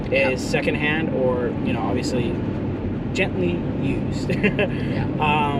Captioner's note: chuckles